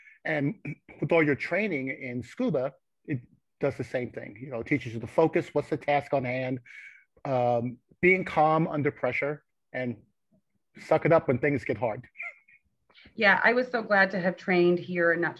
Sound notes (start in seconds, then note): 12.0 chuckles